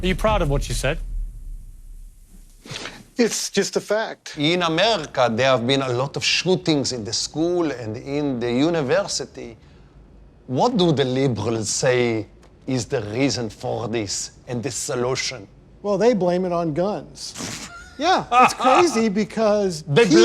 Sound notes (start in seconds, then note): 18.2 scoffs